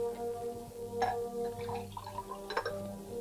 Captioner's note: glass clinks; whiskey sloshing